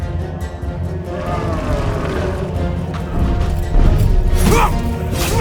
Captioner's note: intense music; monster roaring; character grunting